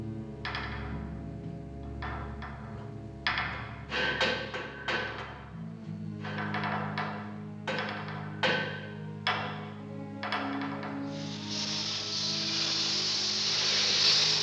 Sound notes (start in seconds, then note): 3.8 pipes rattling; 10.7 air escaping